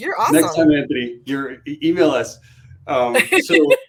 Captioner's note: laughter